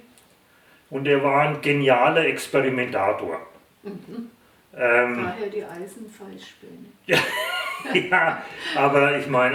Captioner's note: both laugh